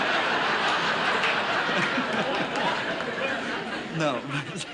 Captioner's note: laughs